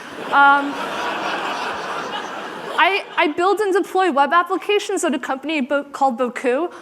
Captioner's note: laughter